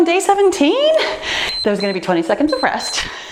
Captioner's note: timer beeps